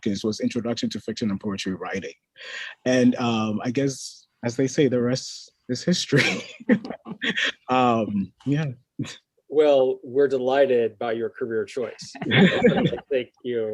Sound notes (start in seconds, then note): 6.1 laughs; 12.0 all laughing